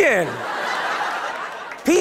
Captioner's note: laughter